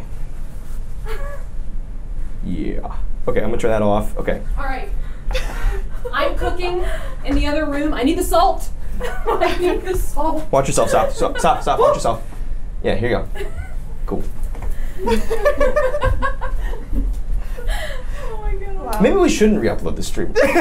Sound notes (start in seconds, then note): 9.0 the group laughs; 14.9 laughs